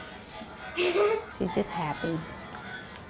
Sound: giggles

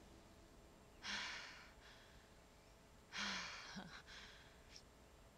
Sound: Brigit breathing heavily

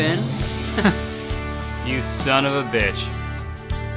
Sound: inspirational music; laughs

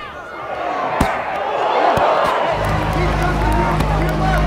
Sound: audience cheering

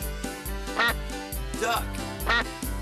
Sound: quacks

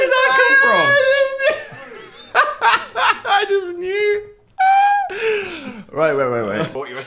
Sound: laughs

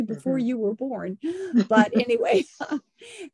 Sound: chuckles

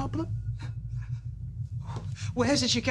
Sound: gasps

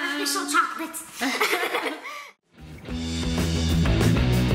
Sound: laughing

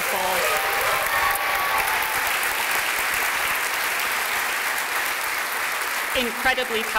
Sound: applause

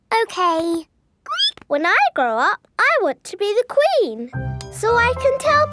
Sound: squeaks

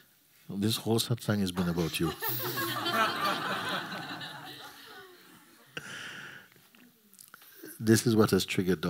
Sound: laughter

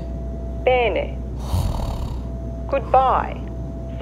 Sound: snoring

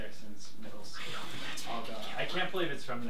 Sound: whispers

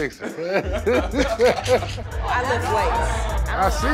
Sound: laughter

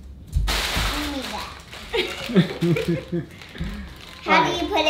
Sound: rustling drowns out speaker

